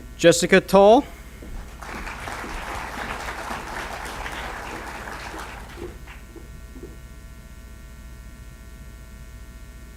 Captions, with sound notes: Jessica Tall. (applause)